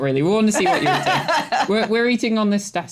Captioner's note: laughter